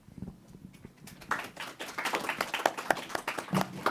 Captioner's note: applause